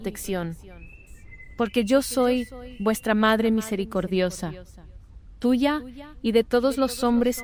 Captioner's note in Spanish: Voz - Virgen María